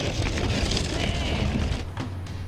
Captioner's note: gate rumbling